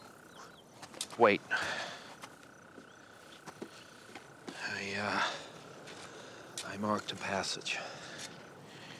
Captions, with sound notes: Wait. [Sighs] I, uh... I marked a passage.